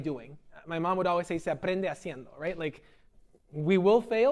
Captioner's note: speaking spanish